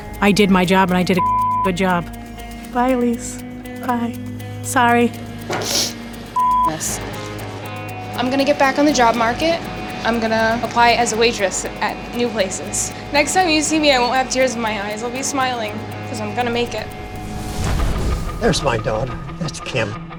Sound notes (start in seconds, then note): 5.5 sniffs